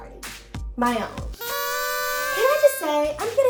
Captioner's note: noisemakers honk